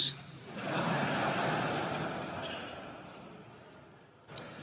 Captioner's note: audience laughing